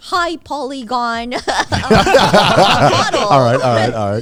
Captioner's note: everyone laughing